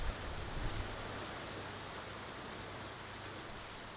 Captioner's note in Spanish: Sonido de oleaje suave